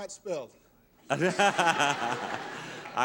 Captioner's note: laughing